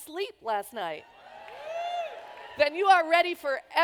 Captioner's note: cheers